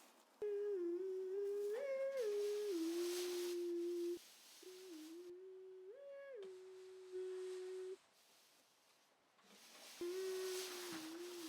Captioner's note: humming